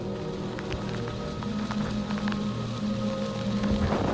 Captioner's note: wind rustling